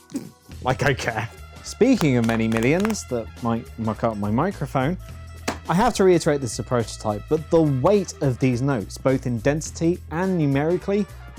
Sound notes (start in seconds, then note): 5.5 money Thwack